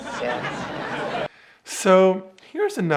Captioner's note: audience laughs